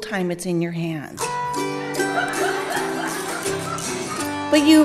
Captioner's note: audience laughing